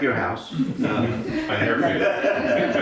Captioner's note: all laughing